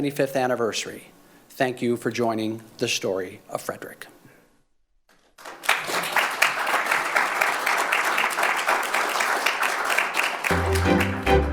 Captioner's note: applause